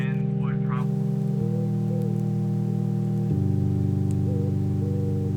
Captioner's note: owl hooting in the distance